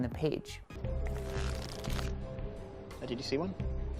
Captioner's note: cards flip